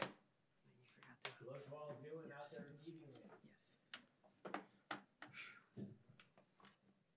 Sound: panelists indistinctly chattering

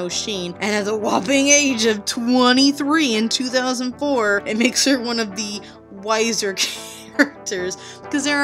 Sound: giggles

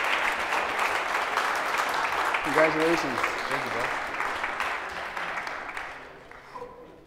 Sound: applause

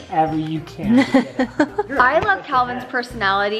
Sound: laughs

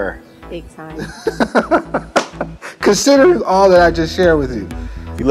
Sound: laughter

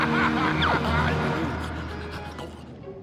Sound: panting

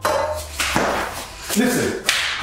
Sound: pots rattling

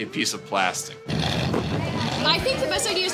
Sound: revving engine

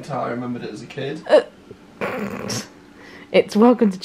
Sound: laughs

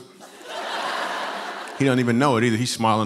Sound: laughter

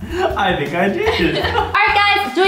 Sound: laughter

